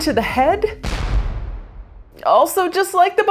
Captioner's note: gun shooting